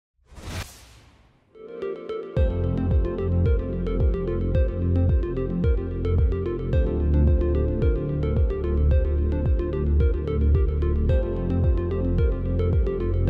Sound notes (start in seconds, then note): 0.3 screen swooshing; 1.9 upbeat music